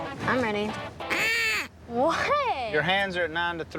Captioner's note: blows duck call